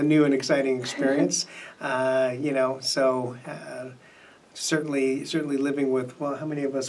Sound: laughs

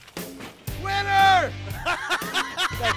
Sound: laughter

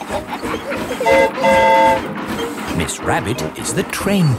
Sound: train whistle toots

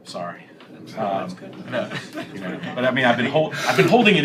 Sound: laughter

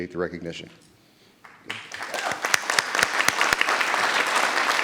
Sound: audience clapping

